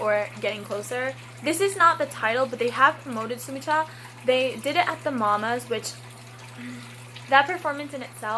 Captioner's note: deep breath